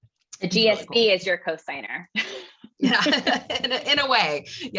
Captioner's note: laugh